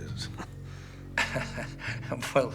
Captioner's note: Bridges laughs